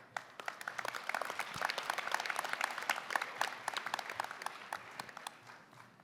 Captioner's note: applause